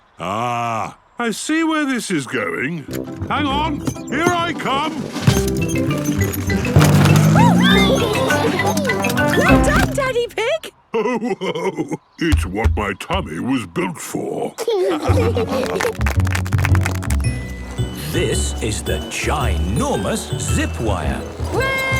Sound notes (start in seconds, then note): 7.1 giggles; 10.9 laughing; 14.5 laughing; 15.6 clapping